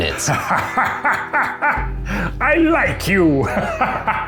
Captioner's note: laughs